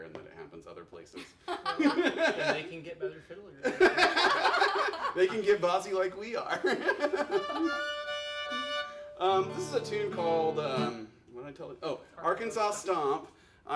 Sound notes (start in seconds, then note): 1.2 laughs; 3.7 laughing